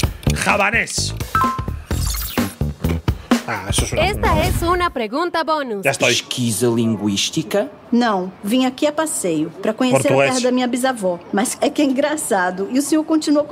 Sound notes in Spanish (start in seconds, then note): 5.9 hablan en un idioma extranjero; 10.8 habla en un idioma extranjero